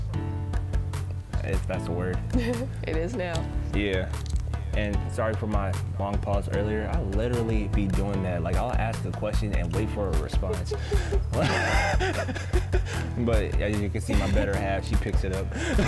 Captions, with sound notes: if that's a word. It is now! Yeah. And sorry for my long pause earlier, I literally be doing that, like I'll ask a question and wait for a response. [both laugh] But as you can see, my better half, she picks it up!